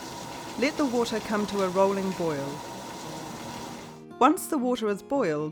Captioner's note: sound of water boiling in pot